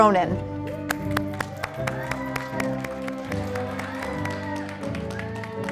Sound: audience applauding

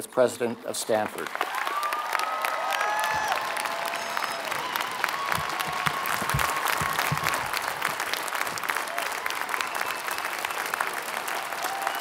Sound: applause

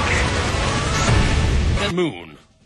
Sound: thoom!

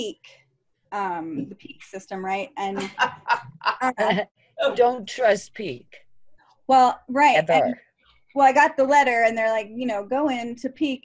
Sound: laughter

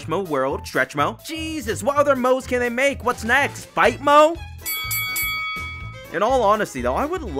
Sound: bell Rings

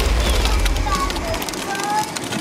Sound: dinosaur stomping; upbeat music; dinosaur stomping; toy car engines whizzing

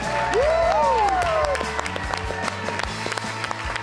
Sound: bright upbeat music; audience applauding

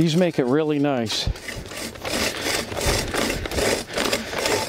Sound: sound of Scraping

